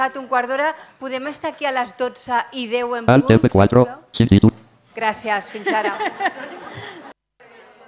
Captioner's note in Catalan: riures